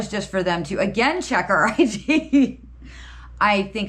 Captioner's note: laughs